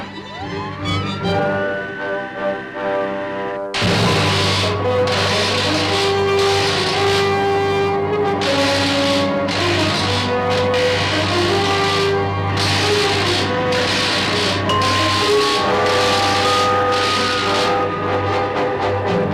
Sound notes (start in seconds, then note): 0.2 machine whirring; 3.7 dramatic music; 3.7 electricity crackling; 13.3 bell ringing